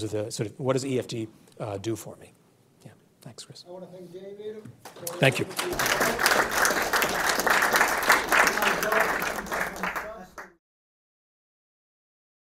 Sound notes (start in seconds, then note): 7.5 audience clapping